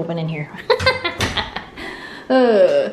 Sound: laughs

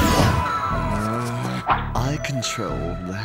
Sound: growls

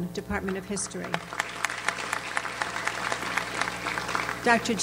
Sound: audience applauds

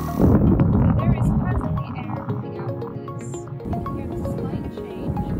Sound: whoosing noise

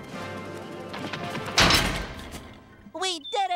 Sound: thudding

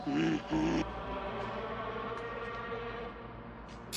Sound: snarling

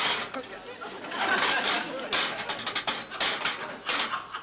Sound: laughter

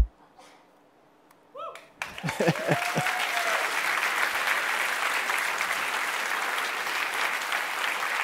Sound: applause

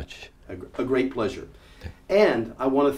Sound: speaking English

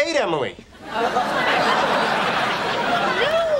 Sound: audience laughing

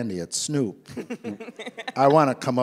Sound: laughs

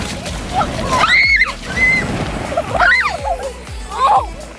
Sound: kids shrieking; kids giggling

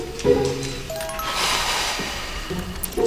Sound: sigh

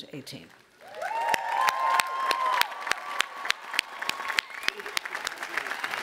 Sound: audience applauding and cheering

